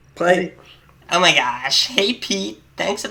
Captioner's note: in a comical voice